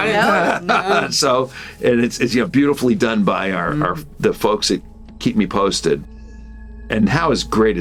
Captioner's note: laughs